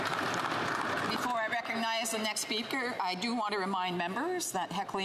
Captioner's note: some Applause